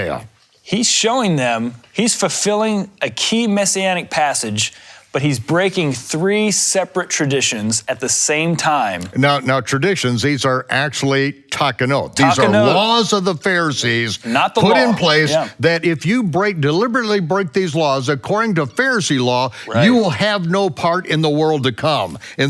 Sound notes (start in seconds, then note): 12.5 speaks in foreign language